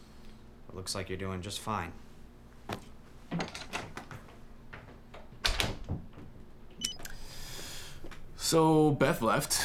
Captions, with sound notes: Looks like you're doing just fine (door shuts) (beep) So, Beth left